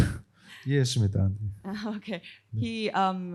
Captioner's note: speaking korean